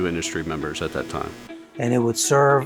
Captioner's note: machine whirring